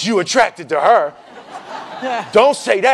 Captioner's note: laughing